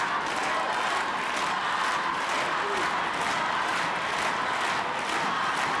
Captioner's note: audience cheering and clapping